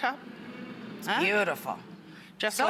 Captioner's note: audience hums with excitement